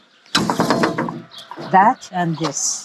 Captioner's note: lid clangs